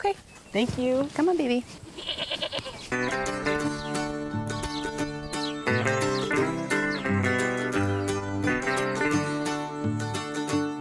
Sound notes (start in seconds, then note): 1.9 goat bleats; 2.8 folksy music